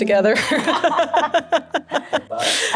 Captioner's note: laughs